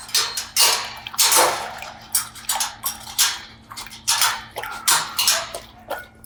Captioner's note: metal clanging; dog licking water